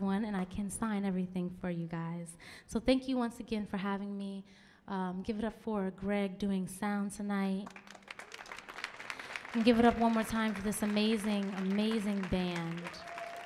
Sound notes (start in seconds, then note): 7.6 audience clapping; 13.2 audience cheering